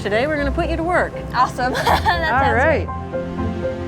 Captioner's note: laughs